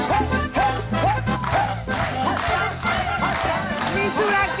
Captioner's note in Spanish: Aplaude